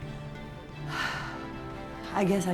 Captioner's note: sighs